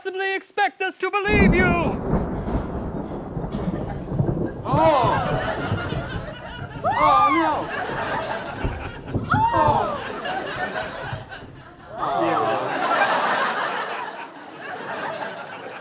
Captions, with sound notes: EXPECT US TO BELIEVE YOU? [THUNDER] [SCREAMING] >>OH, NO! [GASPING]